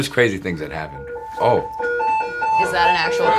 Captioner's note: sirens